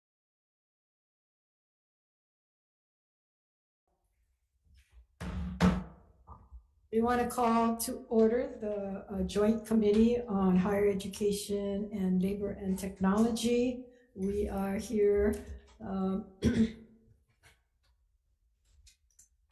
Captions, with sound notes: (silence) (gavel bangs) - We wanna call to order the Joint Committee on Higher Education and Labor and Technology. We are here.